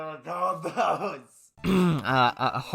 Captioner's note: clears throat